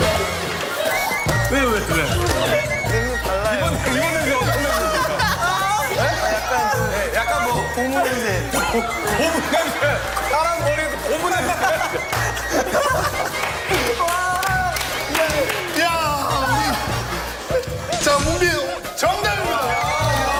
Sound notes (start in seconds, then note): 6.0 laughing so much